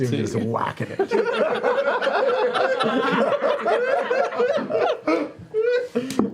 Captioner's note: laughter